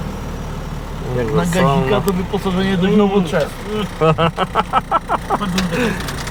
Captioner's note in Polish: śmiech